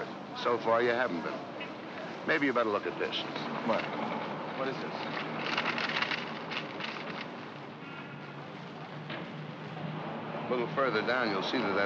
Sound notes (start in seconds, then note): 5.0 paper rustling; 7.5 city street sounds